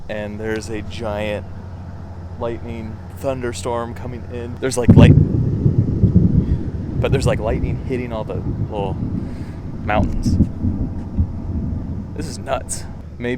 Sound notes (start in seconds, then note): 5.6 thunder rumbling loudly